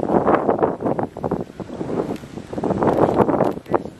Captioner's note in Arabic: صوت الريح